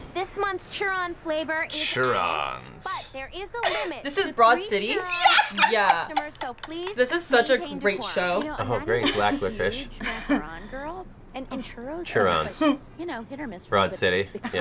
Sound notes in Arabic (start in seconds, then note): 5.4 يضحك; 9.9 ضحكة مكتومة